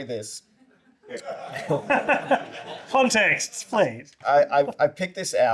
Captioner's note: laughter